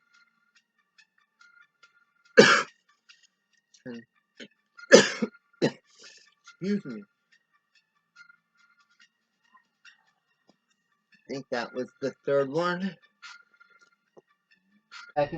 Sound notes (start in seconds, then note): 1.7 coughs